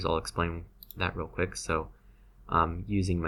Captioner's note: mouse clicks